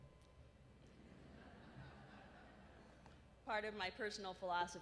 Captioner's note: laughter